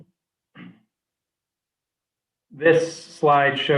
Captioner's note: clearing throat